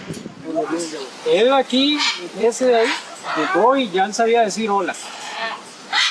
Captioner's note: in Spanish